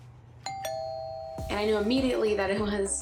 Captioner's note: doorbell rings